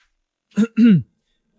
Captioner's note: cough cough